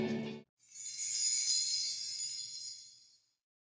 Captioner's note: bells chiming